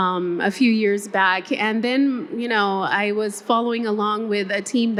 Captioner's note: none